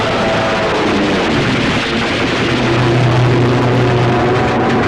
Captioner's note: gun firing